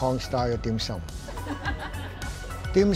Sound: laughter

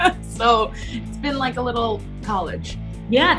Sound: laughs

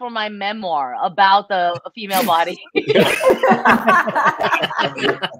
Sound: laughter

